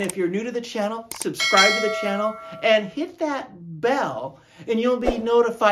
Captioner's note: ding ding